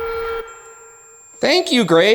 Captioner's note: REM-Pod beeping